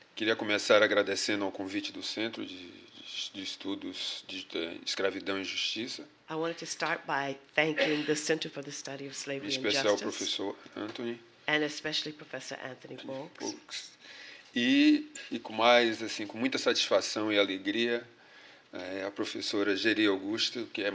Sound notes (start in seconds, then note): 3.3 speaking portuguese; 11.1 speaking portuguese; 20.3 speaking portuguese